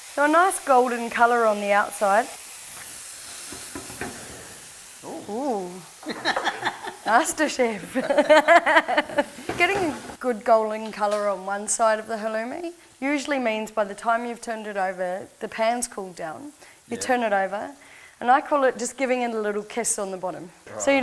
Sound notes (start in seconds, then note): 6.0 both laughing; 6.0 laughing